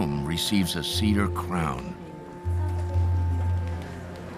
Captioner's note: people talking quietly